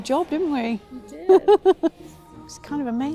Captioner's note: laughing